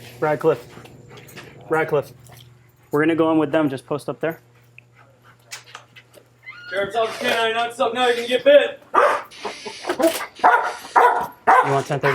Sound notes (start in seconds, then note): 6.4 door opening; 10.3 barking